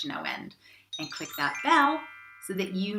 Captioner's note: bell chiming